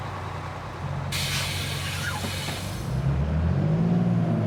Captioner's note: door hissing